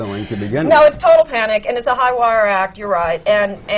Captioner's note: laughs